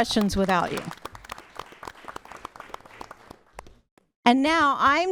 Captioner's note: applause